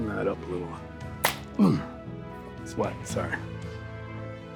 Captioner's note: hands slap